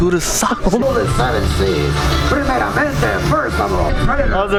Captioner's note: narrator speaking in Spanish